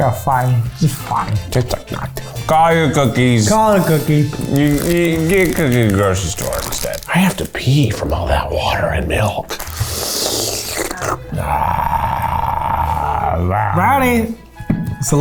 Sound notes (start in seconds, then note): 9.2 slurps; 11.9 growls